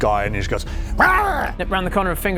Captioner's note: rawr!